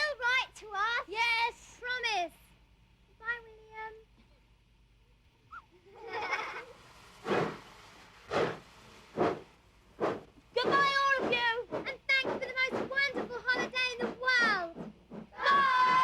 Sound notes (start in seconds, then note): 5.5 children laugh